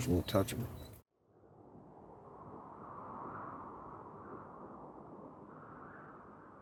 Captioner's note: wind